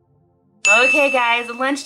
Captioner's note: ding